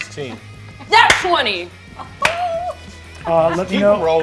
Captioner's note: claps